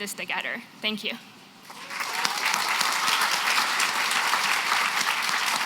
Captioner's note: applause